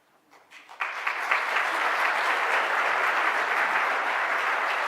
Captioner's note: audience applauding